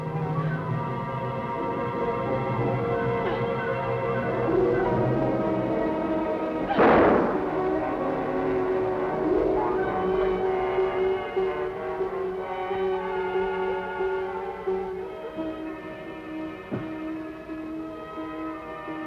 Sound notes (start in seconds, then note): 6.7 gunshot; 8.0 dramatic music playing